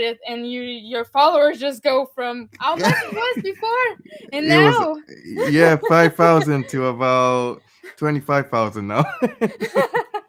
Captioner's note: laughing